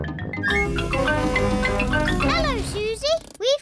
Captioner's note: horn blares